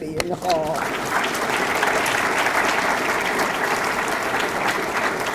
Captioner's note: audience clapping